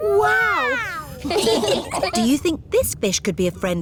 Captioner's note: laughing